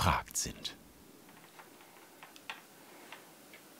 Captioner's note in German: Leises Surren im Hintergrund